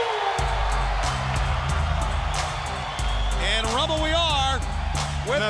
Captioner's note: crowd cheering